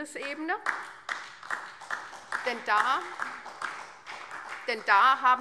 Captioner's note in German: Beifall SPD und DIE LINKE